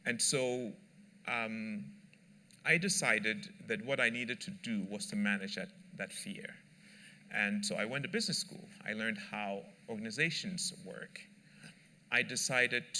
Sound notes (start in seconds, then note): none